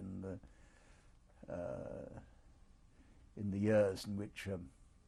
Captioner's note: pauses for 3 seconds